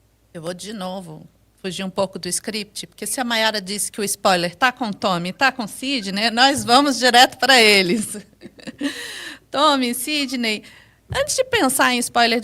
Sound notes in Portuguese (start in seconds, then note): 7.9 risadas; 8.8 suspirando